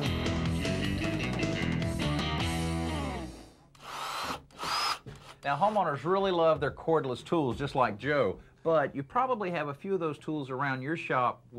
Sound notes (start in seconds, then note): 0.0 upbeat rock music; 3.7 drill drilling